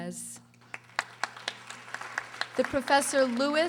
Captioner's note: audience applauding